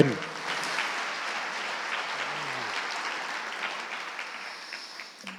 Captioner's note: audience applauding